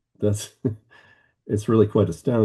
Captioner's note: chuckling